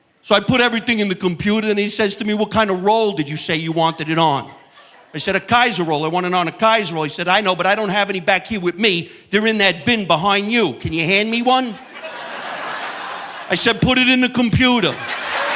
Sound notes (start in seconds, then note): 11.8 audience laughing